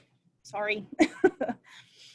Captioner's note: laughs